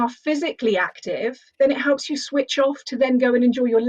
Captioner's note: none